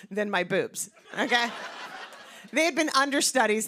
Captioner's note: laughter